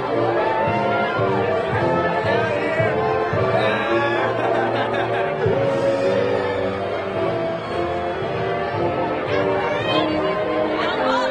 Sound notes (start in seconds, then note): 3.5 laughing; 7.2 lively triumphant music continues